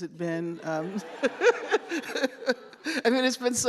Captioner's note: laughter